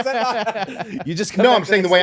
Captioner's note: laughing